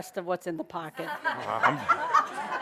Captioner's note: laughter